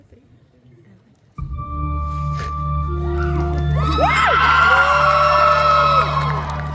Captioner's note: audience Cheers